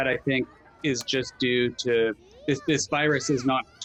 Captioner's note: children chattering